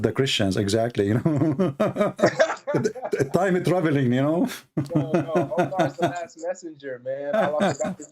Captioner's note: Ketawa